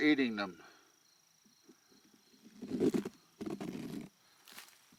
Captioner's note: insects chittering